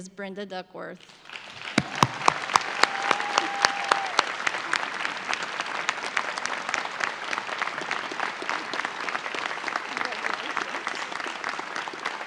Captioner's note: audience applause